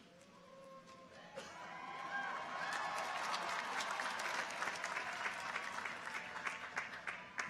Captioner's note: people cheer; audience applauds